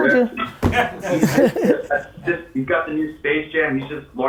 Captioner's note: group laughs